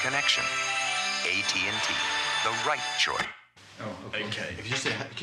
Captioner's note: recorder clicks